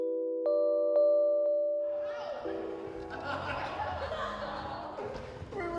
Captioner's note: laughter and chatter